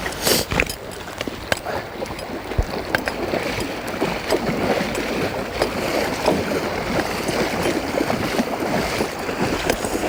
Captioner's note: splash from wading